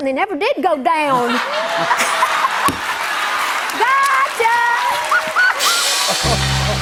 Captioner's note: cheers and applause